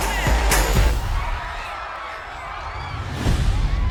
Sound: people screaming

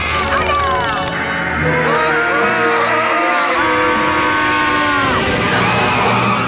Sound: screaming

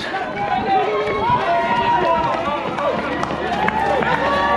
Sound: crowd cheering

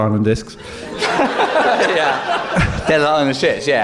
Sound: laughing

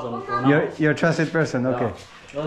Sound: none

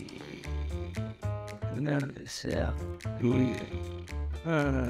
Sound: wolf snores; upbeat music

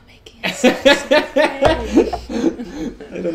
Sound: whispering; both laugh

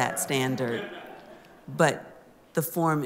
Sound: laughter

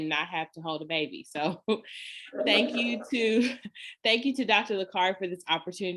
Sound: laughter

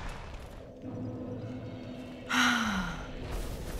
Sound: sighs deeply

